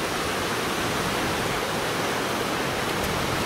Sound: waves crashing

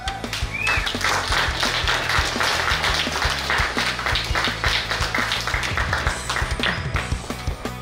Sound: clapping & Cheering

